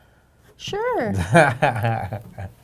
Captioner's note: laughing